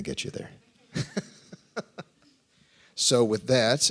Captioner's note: laughs